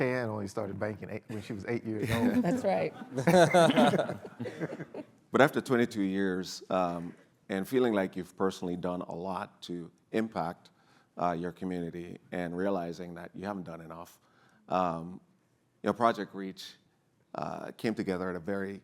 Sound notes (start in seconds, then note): 2.0 laughs